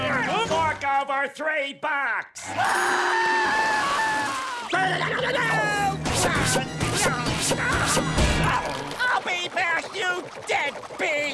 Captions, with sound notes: I walked over three blocks! [screaming] [groaning] I'll be there, you deadbeat!